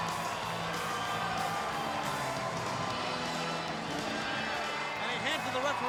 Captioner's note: crowd cheering; heavy metal music